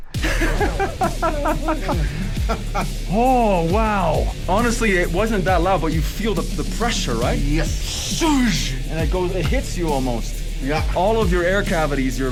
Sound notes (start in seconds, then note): 0.1 everyone laughs; 8.3 mimics explosion